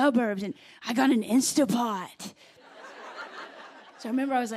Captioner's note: laughter